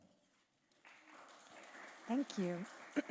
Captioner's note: applause